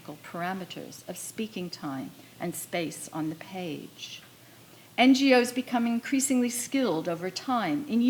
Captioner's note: none